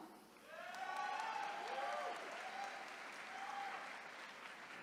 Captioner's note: attendees cheering